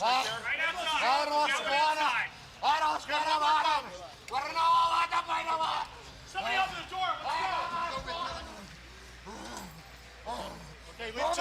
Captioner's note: crowd chatter